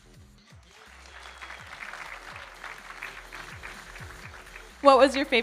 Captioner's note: audience applauding